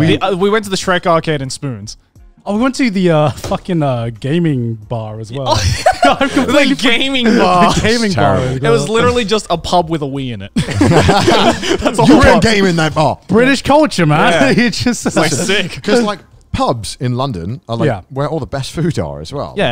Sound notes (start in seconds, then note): 10.6 laughs